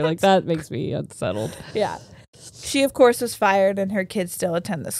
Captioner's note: none